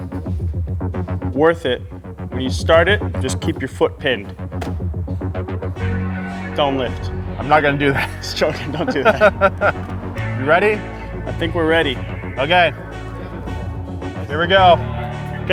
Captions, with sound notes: worth it. Will you start it? And just keep your foot pinned. (dramatic music) Don't lift. - I'm not gonna do that. (laughs) - Just jokin', don't do that. You ready? I think we're ready. - Okay. Here we go.